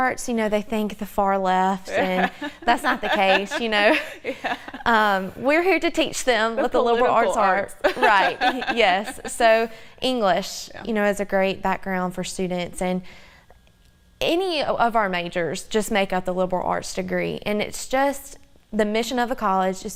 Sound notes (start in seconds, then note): 1.8 laughs